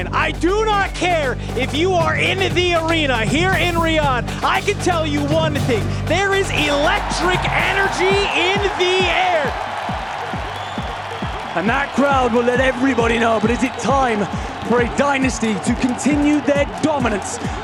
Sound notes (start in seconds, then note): 9.0 crowd cheering